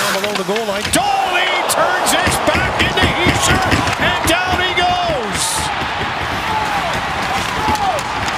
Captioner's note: applause